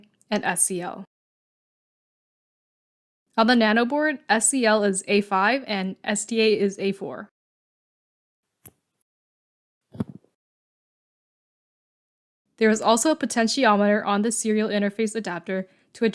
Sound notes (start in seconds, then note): 8.6 click; 10.0 thud